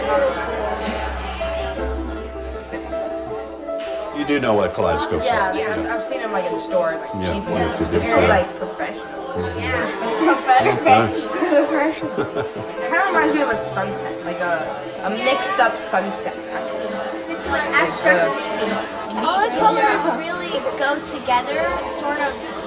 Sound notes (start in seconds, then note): 11.8 chuckles